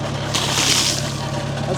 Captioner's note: water splashes